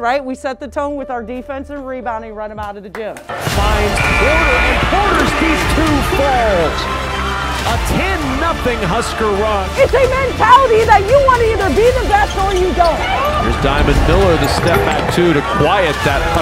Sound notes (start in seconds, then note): 3.9 buzzer; 5.2 crowd cheering